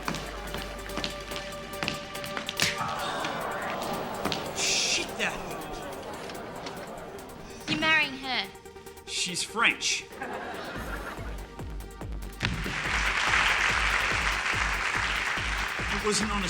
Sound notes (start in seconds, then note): 2.6 audience gasps; 12.4 audience applauds